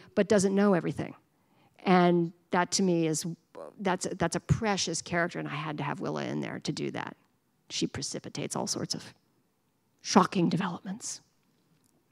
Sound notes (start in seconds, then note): none